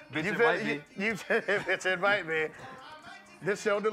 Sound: laughs

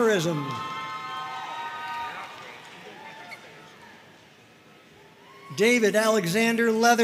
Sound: audience cheering and applauding

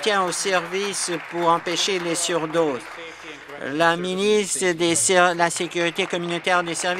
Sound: applause

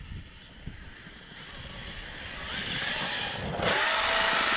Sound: RC truck wheels spinning

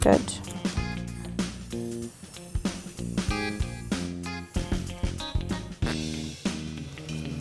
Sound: blowing

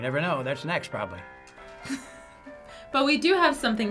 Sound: FBE chuckles

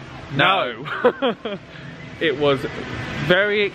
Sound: laughs

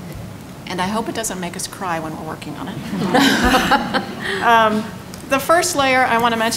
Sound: laughter

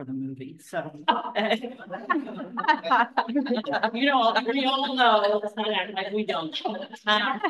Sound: laughter

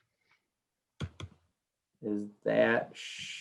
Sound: keyboard clanking

